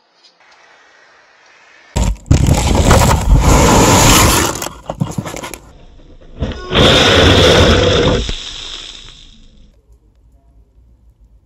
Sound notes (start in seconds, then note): 6.5 motor spins